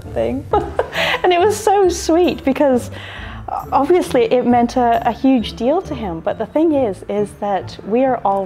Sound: laughs

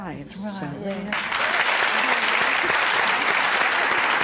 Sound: applause

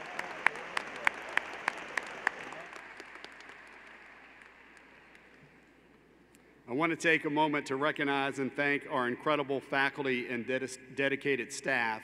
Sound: applause

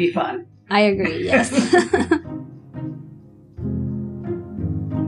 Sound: laughter

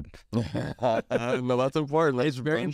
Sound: laugh

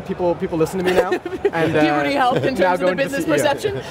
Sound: laughs

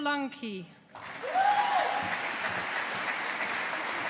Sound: audience applauding

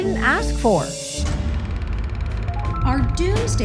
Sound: film projector clicking

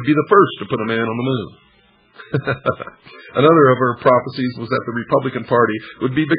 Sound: laughter

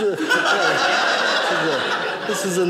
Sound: audience laughing

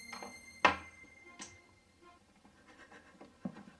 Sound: dramatic music playing; thump; sobbing

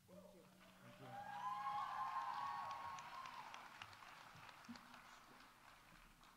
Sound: audience cheering

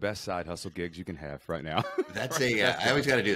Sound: chuckling

